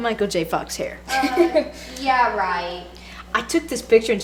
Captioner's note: girls laugh